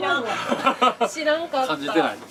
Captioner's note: laughs